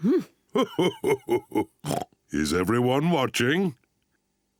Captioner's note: laughing